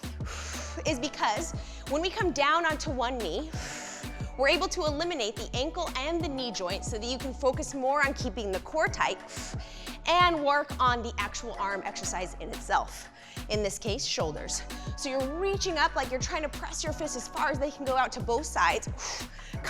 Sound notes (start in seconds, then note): 0.2 breathes out; 3.6 breathes out